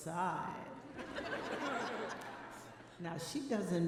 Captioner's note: audience laughing